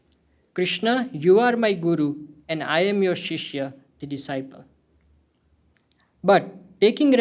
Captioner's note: hindi